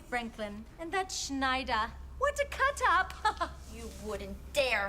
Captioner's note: laughs